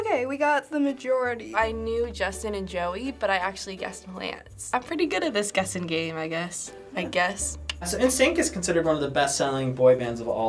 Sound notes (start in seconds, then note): 7.6 clicks tongue